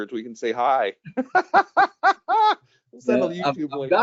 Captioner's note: laughing